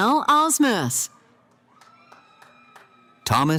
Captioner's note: cheering